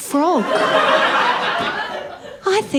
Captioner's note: laughter